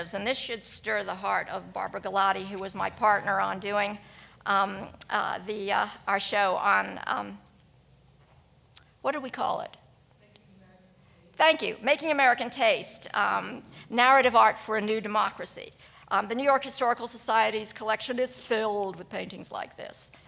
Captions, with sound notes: and this should stir the heart of Barbara Gallati, who was my partner on doing our show on, what did we call it? (woman speaking quietly) Thank you, Making American Taste: Narrative Art for a New Democracy. The New-York Historical Society's collection is filled with paintings like this,